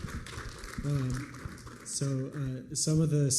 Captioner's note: applause